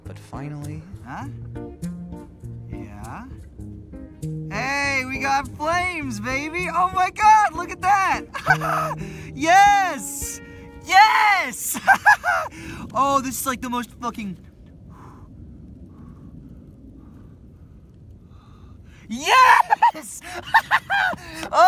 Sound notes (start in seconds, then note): 8.3 laughs; 11.7 laughs; 15.0 blows; 19.2 laughs wildly